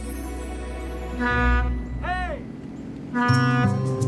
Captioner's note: horn honks